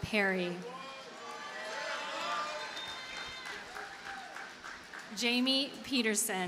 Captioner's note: audience cheers and applauds